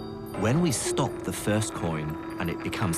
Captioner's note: voiceover